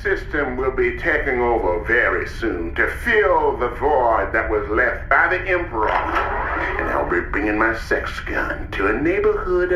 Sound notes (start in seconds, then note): 0.0 singsong; 5.5 sex gun whirrs